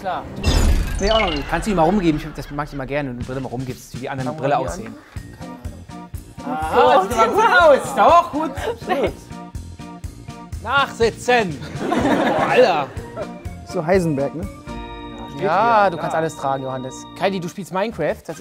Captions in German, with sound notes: Alles klar. - Kannst du sie mal rumgeben, das mag ich immer gerne, wenn du die Brille mal rumgibst, damit die die anderen aufsetzen. (Schelmische Musik) Aha, gut! - Optimal! Nachsitzen! (Lachen) Alter! So Heisenberg, ne? Du kannst alles tragen, Johannes. Kylie, du spielst Minecraft?